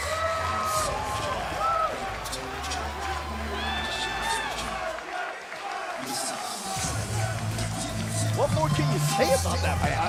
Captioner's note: crowd cheering